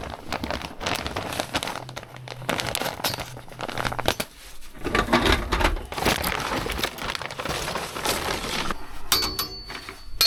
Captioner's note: clanking